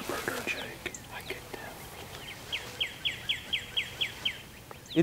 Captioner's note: whispering